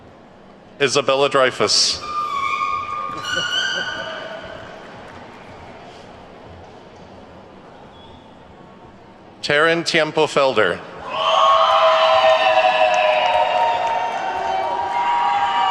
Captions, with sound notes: Isabella Dreyfuss. (horn shrieking) (attendees clapping) Taryn Tiempo Felder. (attendees whooping and clapping)